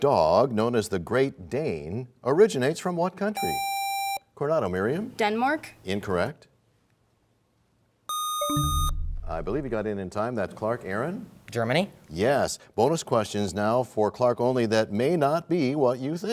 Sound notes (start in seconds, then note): 8.1 buzzer sound; 8.1 bell chimes